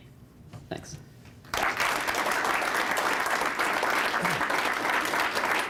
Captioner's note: applause